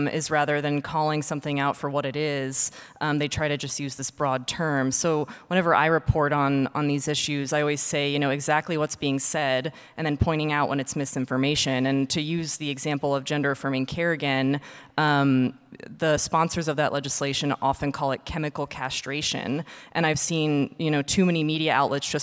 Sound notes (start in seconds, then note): none